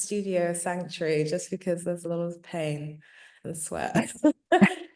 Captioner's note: laughing